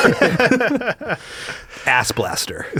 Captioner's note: both laughing